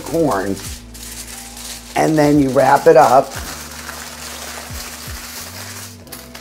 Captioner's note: foil crinkling